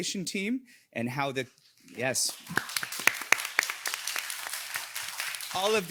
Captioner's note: audience applauding